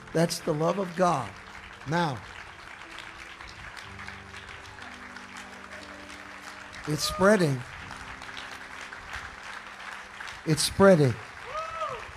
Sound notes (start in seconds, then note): 2.8 congregation applauding; 11.9 congregation cheering